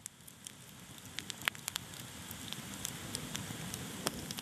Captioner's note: fire crackling